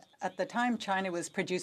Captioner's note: speaking French